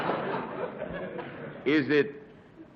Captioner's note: laughter